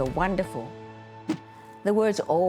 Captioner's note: air whooshing